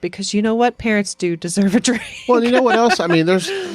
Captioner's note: chuckles